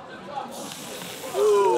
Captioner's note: steam hissing